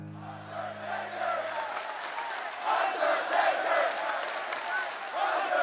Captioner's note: dramatic music continues; crowd chanting "Undertaker"